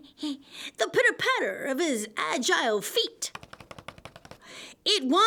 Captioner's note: breathing; pitter patter